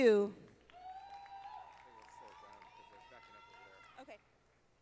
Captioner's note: audience applauding